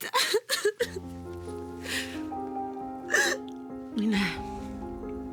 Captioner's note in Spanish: Sollozos